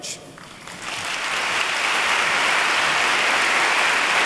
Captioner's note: applause